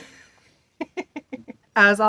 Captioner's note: laughs